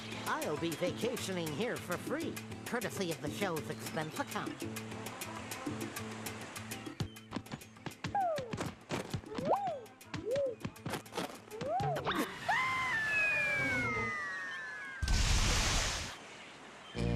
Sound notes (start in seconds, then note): 11.6 Porky screaming; 15.0 splashing